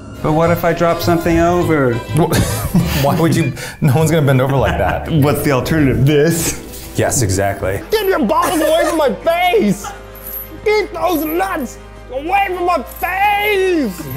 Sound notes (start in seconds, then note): 2.1 laughing